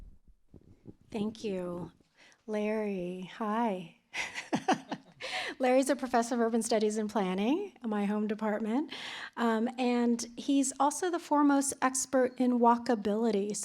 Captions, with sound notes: Thank you. Larry, hi. [LAUGHTER] Larry's a Professor of Urban Studies and Planning, my home department. He's also the foremost expert in walkability.